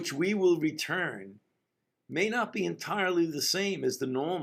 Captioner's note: none